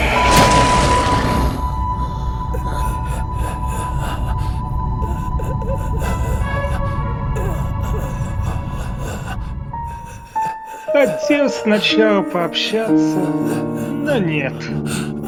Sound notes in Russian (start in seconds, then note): 0.0 страшный звук; 0.2 звук разрываемой плоти; 1.6 тяжёлое дыхание